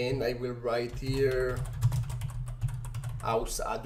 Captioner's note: keyboard typing